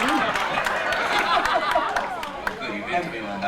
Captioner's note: laughter